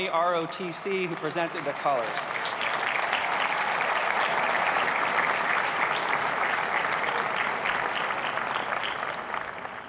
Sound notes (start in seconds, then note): 3.2 cheers and applause